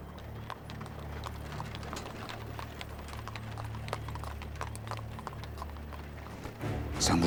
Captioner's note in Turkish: At arabası sesi